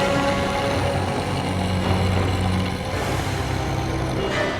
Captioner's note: Eric growling